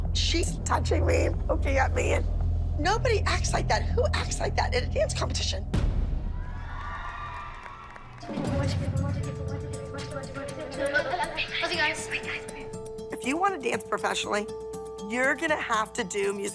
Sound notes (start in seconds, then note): 6.3 cheers and applause; 11.1 all humming